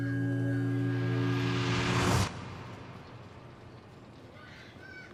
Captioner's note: air whooshing; children shouting